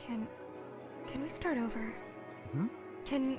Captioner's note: clears throat